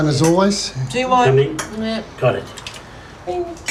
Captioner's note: clink!